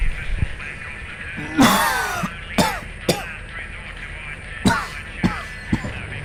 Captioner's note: coughs